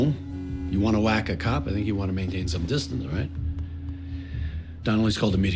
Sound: cell phone buzzes

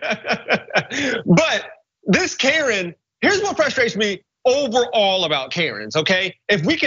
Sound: laugh

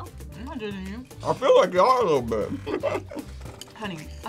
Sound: laughs

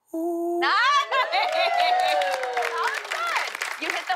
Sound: cheers and applause

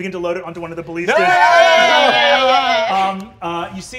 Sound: panicking

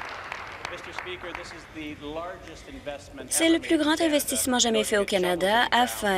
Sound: applause

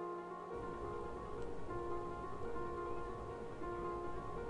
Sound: waterfall roaring

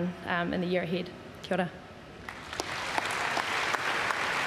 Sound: applause

